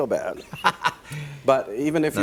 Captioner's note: laughs